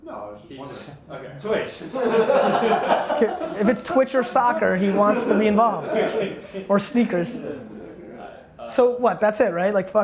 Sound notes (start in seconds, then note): 1.9 laughs